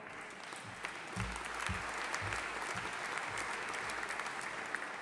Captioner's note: audience applauding